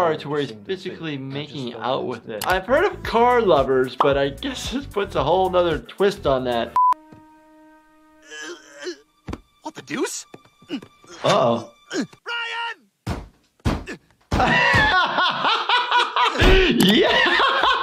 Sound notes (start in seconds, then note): 8.3 Stewie groans; 13.0 thudding; 14.3 laughing